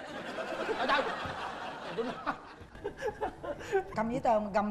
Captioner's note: laughing